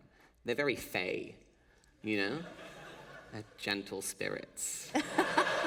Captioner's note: laughter